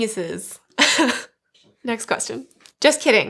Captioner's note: laughs